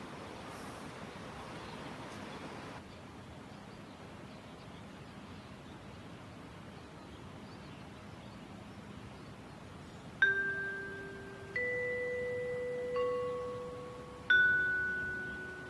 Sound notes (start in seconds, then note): 3.8 birds chirping; 10.2 pensive piano plays